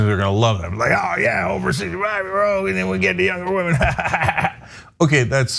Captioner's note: laugh